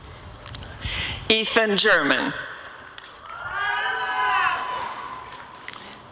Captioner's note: applause and cheering